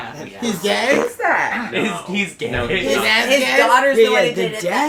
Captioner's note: laughs